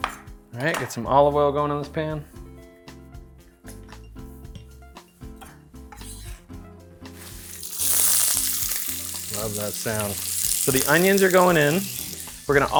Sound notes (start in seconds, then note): 4.4 soft music; 7.1 onions frying